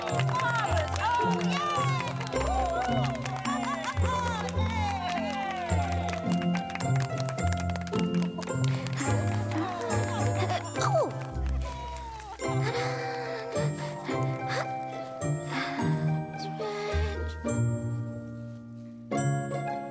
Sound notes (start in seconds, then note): 0.3 clapping and cheering; 13.4 she hums quietly along to music